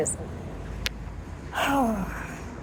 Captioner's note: sigh